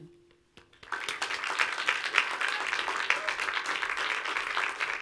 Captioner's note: audience applauds